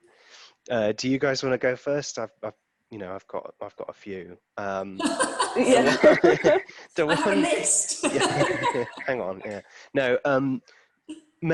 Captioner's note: laughter